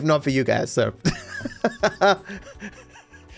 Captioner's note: laughs